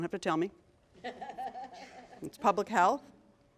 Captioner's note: laughter